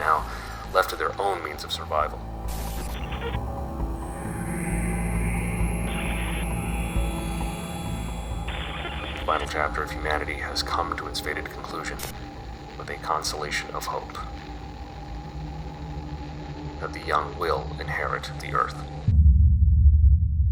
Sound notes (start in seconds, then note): 2.6 intense music; 2.6 static buzzing